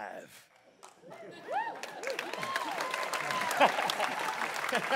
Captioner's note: audience claps